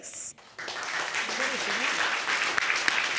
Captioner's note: audience clapping